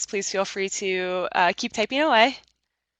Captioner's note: none